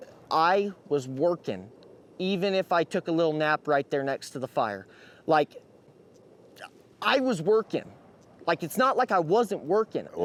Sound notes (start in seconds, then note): none